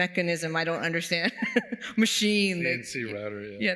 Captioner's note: laughs